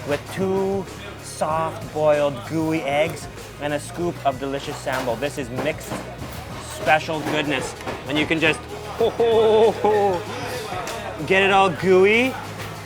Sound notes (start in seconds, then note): 7.7 chuckling